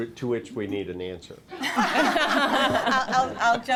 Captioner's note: laughter